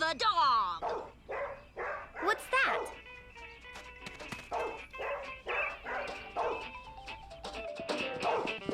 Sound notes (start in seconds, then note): 0.8 dog barking; 2.8 jazz music; 4.4 dog barking